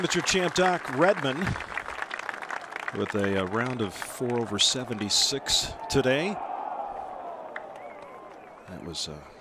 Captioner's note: applause